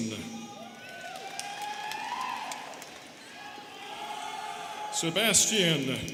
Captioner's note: students cheering and clapping